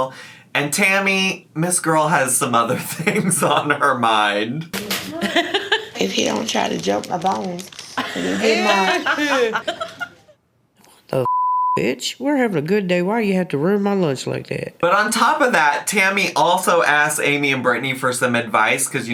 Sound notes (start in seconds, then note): 11.2 beep